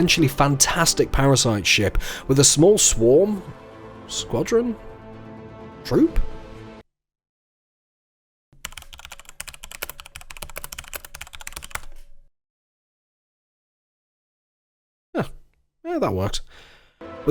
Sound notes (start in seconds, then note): 8.6 cue frantic typing